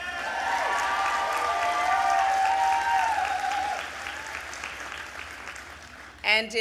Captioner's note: applause